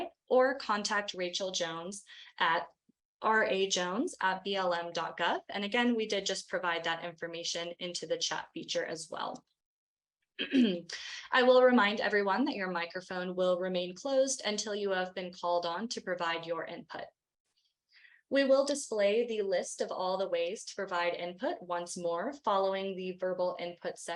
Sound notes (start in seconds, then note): 10.4 clears throat